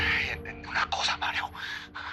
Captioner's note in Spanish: Suspiros; Voz en grabación